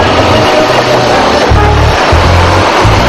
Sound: train engine

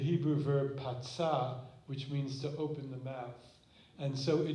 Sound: non-english

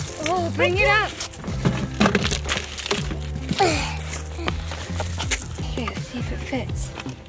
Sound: panting tiredly

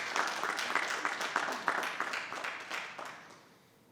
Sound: applause

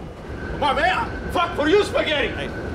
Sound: speaking in foreign language

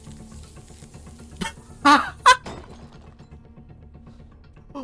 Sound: laughter

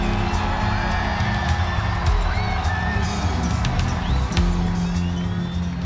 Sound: cheering

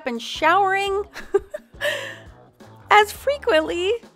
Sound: laughs

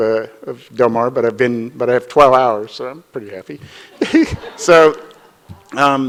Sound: chuckles

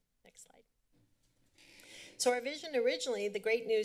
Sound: none

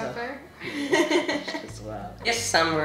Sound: laughs

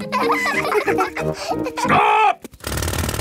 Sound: children laughing

